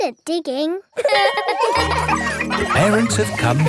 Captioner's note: laughing